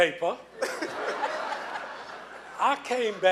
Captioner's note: laughing